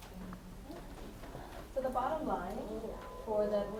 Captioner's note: attendee Through Translator